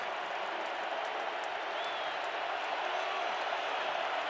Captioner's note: crowd cheering